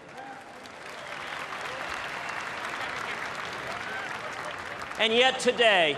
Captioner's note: applause